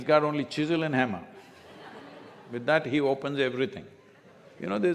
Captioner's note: laughter